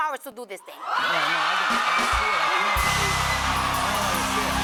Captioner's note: cheers and applause